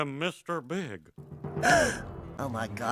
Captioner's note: gasp